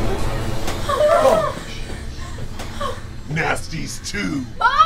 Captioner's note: whimpering